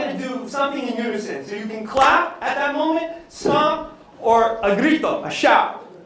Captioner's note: non-english speech